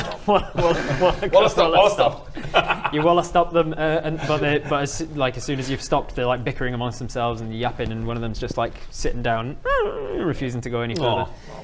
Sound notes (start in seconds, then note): 0.0 laughing; 8.6 whine